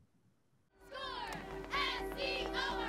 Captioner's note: cheerleaders cheering